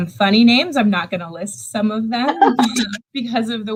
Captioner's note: laughs